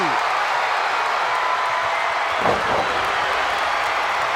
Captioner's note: crowd cheers